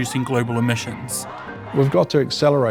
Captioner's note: crowd chants